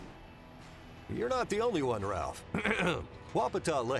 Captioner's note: clears throat